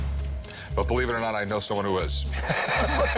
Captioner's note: laughs